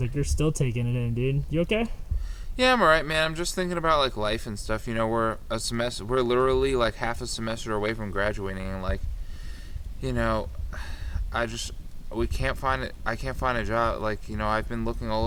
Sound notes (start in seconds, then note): 10.5 sighs